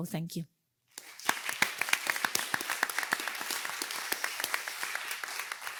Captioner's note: participants clapping